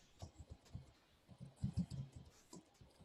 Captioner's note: typing